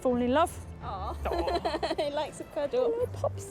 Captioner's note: laughing